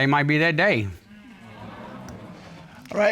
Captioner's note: audience exclaims